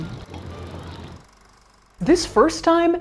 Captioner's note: projector whirring